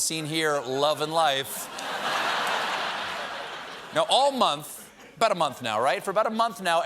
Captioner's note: laughter